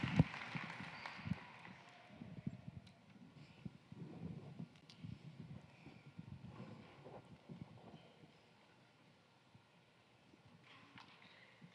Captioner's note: cheering and applause